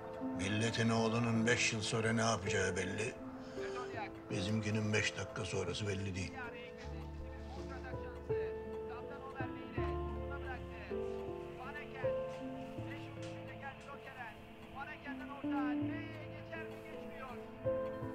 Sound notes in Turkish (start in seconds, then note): 8.5 Televizyon spiker sesi; 11.0 Müzik - Duygusal